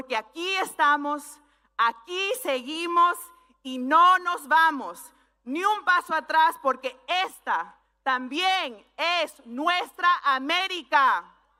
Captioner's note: speaking spanish